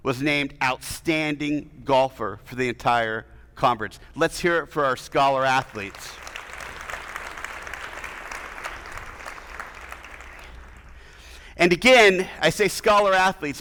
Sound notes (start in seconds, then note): 5.6 attendees applauding